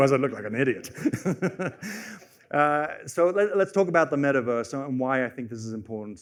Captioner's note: laughs